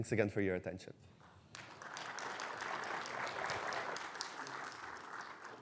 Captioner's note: audience clapping